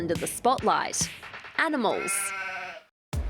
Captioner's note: sheep bleats